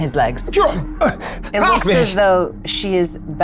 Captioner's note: grunts